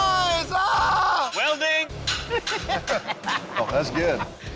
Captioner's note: laughter